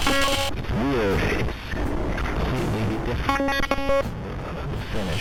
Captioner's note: glitching noise